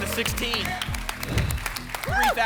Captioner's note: whoosh